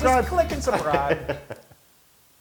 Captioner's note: laugh